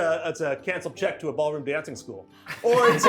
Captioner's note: group laughs